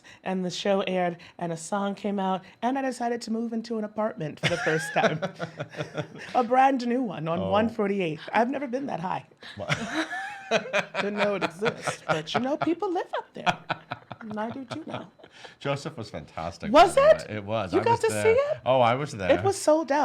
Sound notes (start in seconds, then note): 4.4 laughs; 9.4 laughs